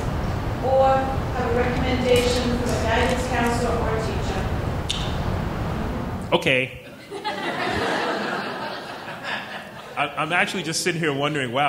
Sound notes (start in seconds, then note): 6.9 laughing